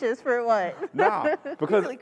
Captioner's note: laughter